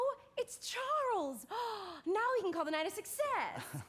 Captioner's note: gasps; chuckles